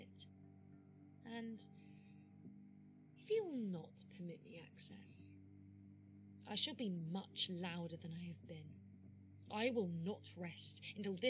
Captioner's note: inhaling